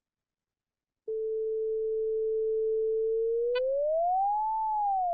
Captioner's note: flat tone, rises, decreases